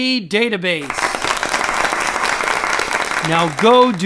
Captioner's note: applause